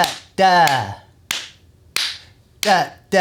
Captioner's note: clapping